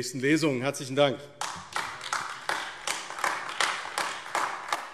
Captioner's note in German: Beifall AfD